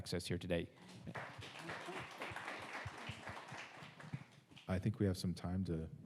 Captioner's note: audience applauds